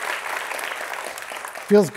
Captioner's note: applause